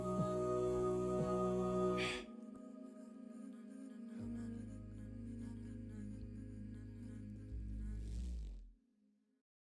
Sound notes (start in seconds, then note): 2.0 breath